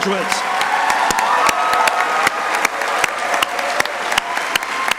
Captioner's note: crowd cheering and applauding